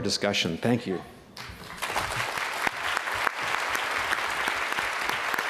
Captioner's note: applause